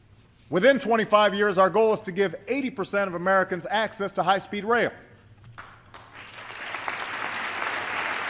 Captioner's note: applause